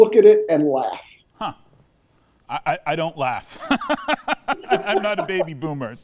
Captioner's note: both laughing